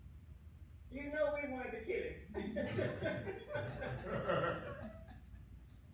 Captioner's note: laughter